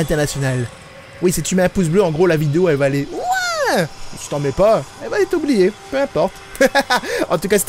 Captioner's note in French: Rires